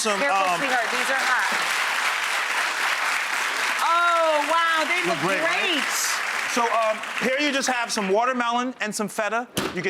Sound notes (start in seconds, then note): 0.0 clapping